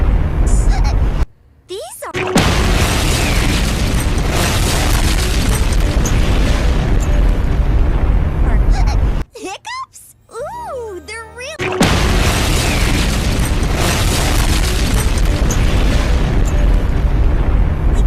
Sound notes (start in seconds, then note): 2.2 explosion; 11.7 explosion